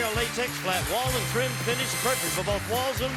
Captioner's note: applause